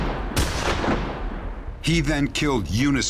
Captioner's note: gunshot